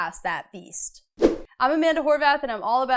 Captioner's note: frame whooshes